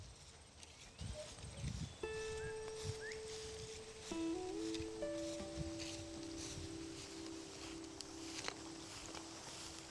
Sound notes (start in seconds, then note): 0.5 birds singing softly; 1.7 gentle music playing